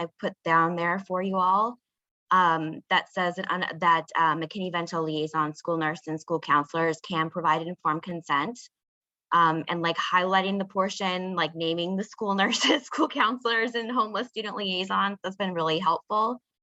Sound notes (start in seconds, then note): 12.5 laughing